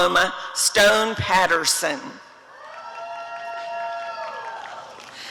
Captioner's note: applause and cheering